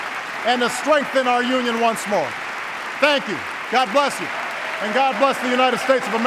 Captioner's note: applause